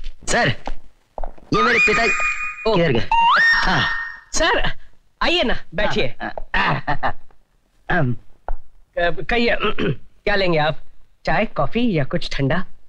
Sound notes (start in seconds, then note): 6.5 softly Laughing